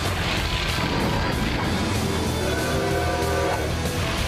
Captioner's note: train whistle blowing